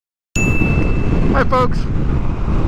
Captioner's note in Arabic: دينغ